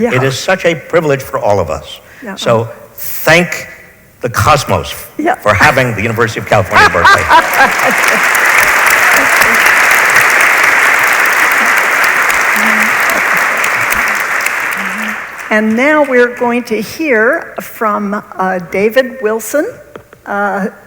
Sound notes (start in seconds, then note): 6.6 audience applauds; 6.7 laughs